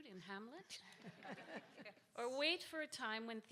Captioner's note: audience laughs